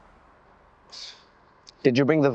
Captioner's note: Saeed sighs